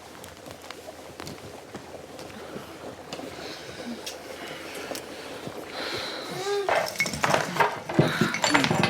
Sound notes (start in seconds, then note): 4.4 heavy breathing; 7.9 moaning